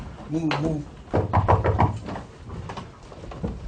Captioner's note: knocking on the door